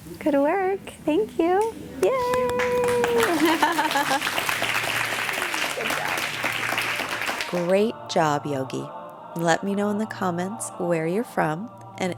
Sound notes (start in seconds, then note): 2.3 applauding